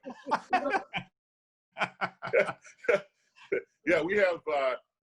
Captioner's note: laughing loudly